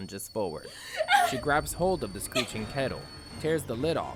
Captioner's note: she grabs hold of the screeching kettle